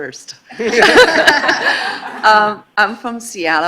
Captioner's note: laughing